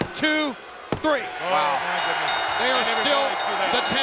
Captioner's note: bell rings